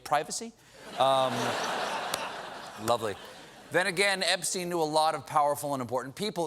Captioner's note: laughter